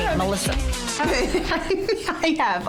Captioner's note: laughing